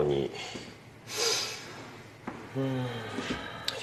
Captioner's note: sighs